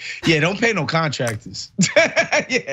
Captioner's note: laugh